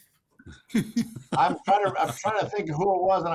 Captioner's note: participants laughing